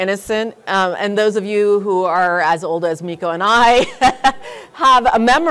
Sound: chuckles

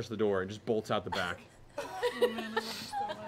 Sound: laughing

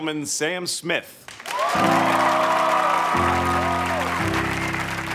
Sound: crowd cheers

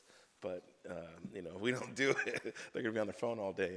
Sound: laughs

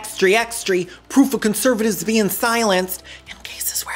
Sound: whispers

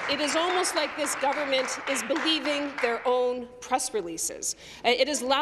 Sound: applause

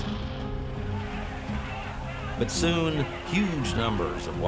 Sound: shouting

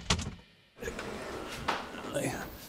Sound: groaning

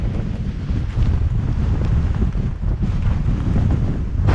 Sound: wind whooshing

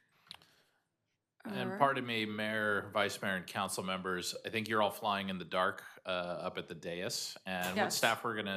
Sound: chorus of ayes

